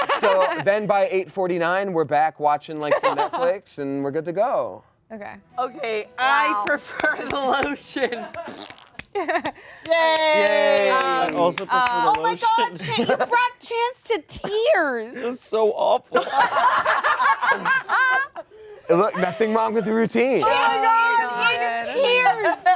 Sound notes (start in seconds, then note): 8.3 blows raspberry; 16.2 all laugh